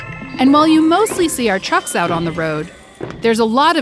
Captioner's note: robotic sounds